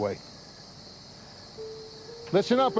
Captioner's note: insects chirping